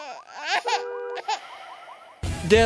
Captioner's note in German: Seufzer; Babyweinen